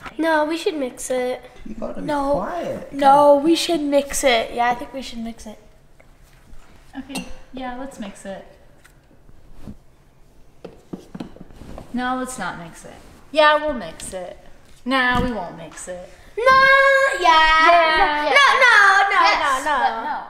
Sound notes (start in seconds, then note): none